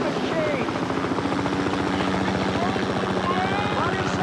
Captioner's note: helicopters whir; yells